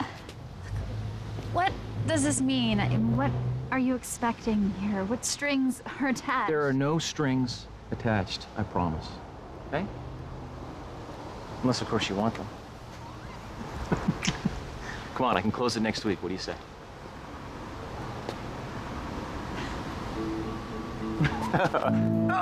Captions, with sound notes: What does this mean? I mean, what are you expecting here? What strings are attached? There are no strings attached, I promise. Okay? Unless, of course, you want them. [chuckling] Come on, I can close it next week. What do you say? [laughs]